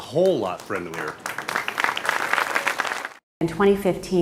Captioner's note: audience applauding